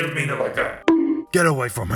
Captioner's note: bonk